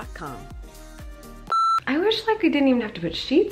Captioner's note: beep